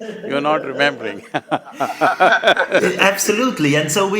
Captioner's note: laughs